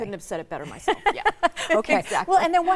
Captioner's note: laughs